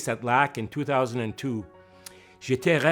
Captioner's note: speaking French